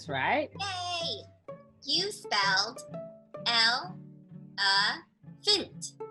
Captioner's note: computer Voice